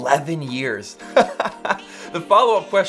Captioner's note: laughing